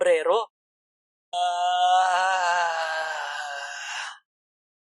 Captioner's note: sigh